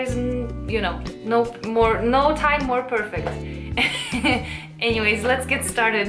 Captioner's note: laughs